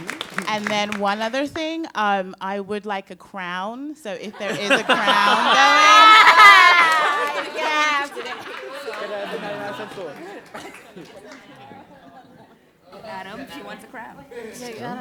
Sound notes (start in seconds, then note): 4.1 laughter; 5.7 laughter and chatter